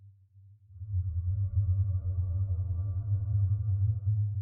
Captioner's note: hummm